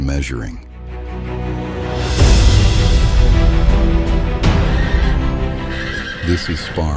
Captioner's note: hooves stamping, horses breathing heavily